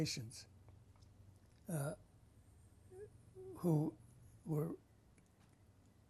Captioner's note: pauses for 3 seconds